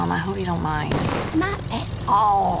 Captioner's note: car backfires